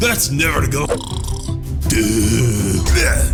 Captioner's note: snores; o'chunks grunting